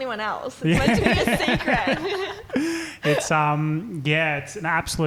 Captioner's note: laughing